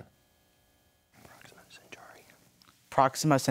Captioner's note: whispers